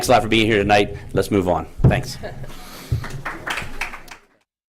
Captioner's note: applause